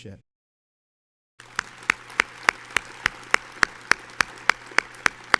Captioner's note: audience applauds